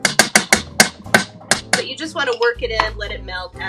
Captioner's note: spoon hitting pot